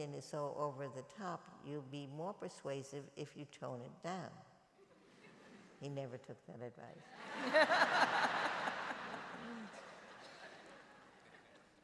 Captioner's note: laughter